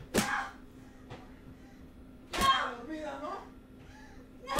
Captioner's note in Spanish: golpes y gritos